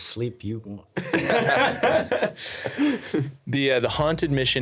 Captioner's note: laughing